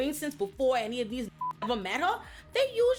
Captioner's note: beep